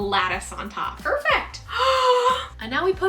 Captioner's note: gasps